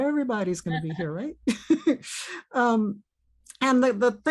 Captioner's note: chuckles